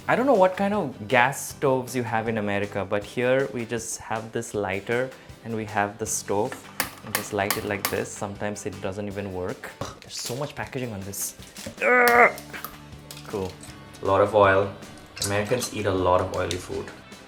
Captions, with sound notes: I don't know what kind of gas stoves you have in America but here we just have this lighter, and we have the stove and just light it like this. Sometimes it doesn't even work. There's so much packaging on this. (grunting) Cool. A lot of oil, Americans eat a lot of oily food.